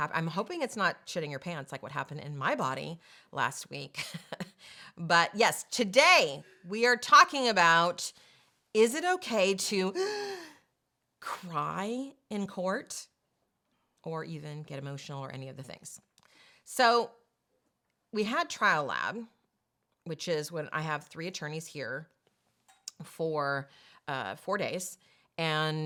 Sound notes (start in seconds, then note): 10.0 gasp